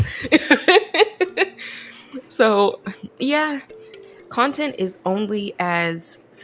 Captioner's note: laughs